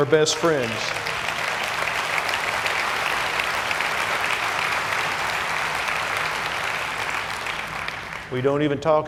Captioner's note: applause